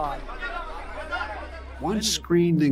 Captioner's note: crowd yells out